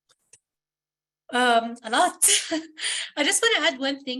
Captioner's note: chuckles